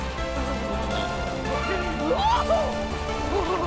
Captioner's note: Berta grunts, screams